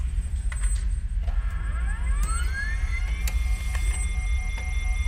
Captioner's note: machine powering up